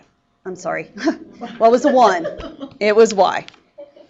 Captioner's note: laughing